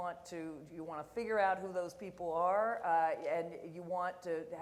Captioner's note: none